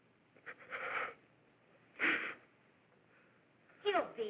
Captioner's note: breathing nervously